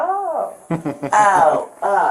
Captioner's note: laughs